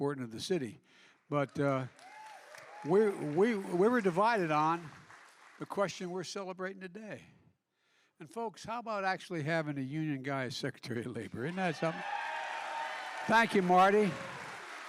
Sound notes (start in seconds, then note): 1.3 applause; 11.2 applause